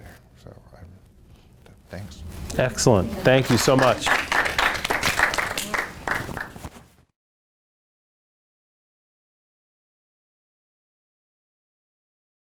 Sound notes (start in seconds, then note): 4.1 applause